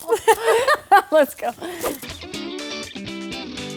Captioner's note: laughing; upbeat music